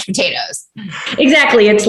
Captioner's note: laughter